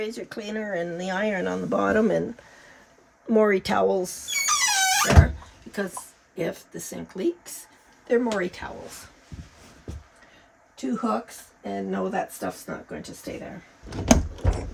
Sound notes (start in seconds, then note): 4.2 squeaking; 14.0 clanking